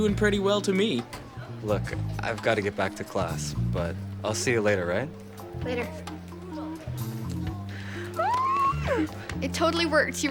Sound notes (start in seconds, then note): 7.6 squeals